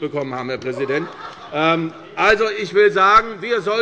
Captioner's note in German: Allgemeine Heiterkeit - Zuruf des Abg